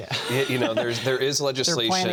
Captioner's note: laughter